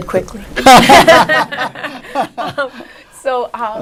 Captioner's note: laughing